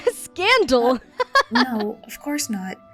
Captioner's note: laughs